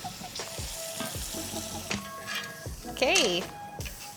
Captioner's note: pan clattering